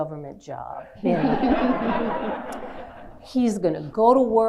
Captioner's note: laughing